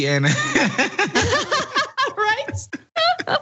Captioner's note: laugh